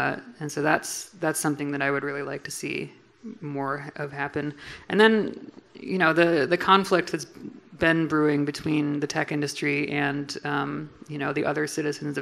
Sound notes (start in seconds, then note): none